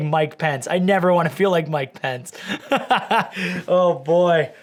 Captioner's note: laughing